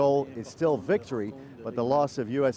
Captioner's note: speaking alternate language